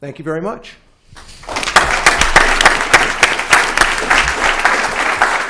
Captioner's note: applause